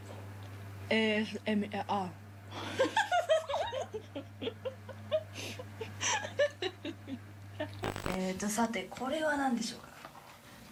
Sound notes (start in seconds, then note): 1.9 laughing; 7.5 speaking in foreign language